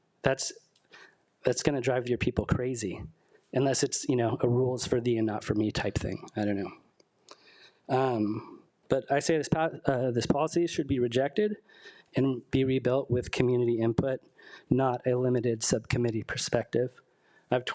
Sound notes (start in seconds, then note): none